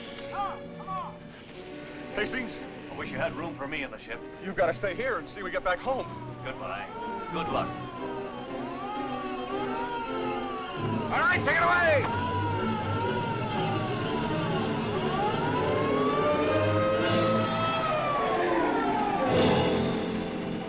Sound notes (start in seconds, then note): 8.3 dramatic music; 8.3 siren whines; 13.1 siren whines; 13.1 suspenseful music